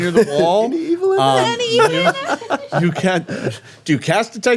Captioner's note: laughing